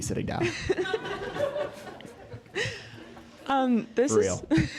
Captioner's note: laugh